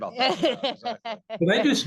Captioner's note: laughter